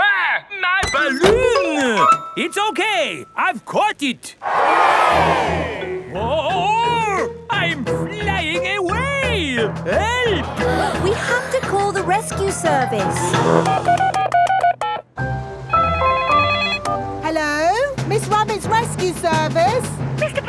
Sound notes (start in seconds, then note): 4.4 crowd cheers; 14.1 beeping; 15.8 phone ringing